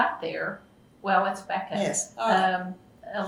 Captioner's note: laughs